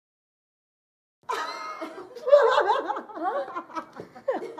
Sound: laughs

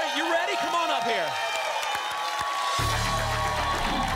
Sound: applause and cheering

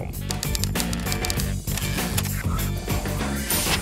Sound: typewriter keys clicking; upbeat music

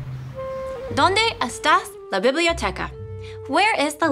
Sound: speaking in foreign language

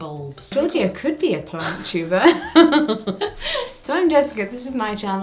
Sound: laughs

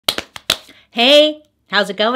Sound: slaps musically

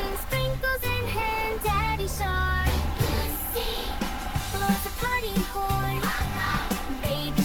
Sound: honk, honk!

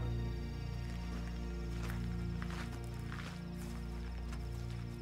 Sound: crickets chirping

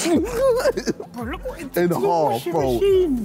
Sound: all laughing

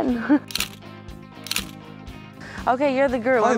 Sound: camera snapping

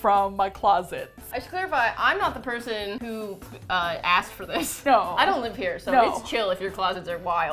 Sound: laughs

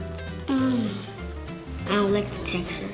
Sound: moans

